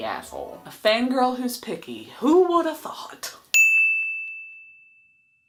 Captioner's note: ding!